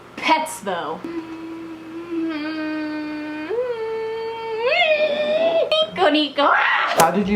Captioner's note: hums to herself, getting increasingly louder